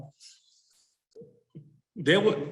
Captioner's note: chuckling